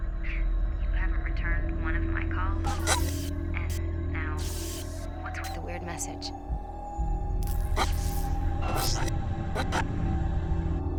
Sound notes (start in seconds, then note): 4.4 electricity crackling; 7.4 electricity crackling; 7.8 eerie music